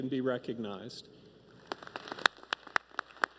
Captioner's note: applause